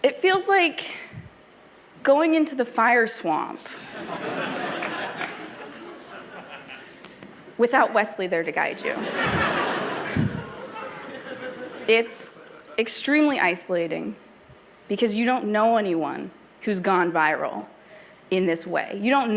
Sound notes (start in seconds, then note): 5.5 laughter